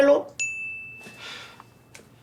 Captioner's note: cell phone sounds